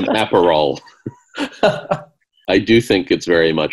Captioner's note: laughing